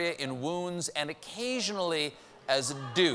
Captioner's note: audience reacts